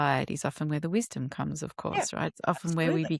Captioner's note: laughs